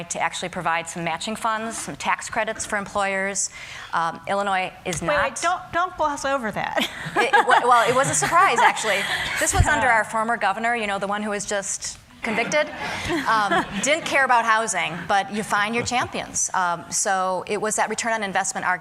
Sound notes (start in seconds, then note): 12.3 laughter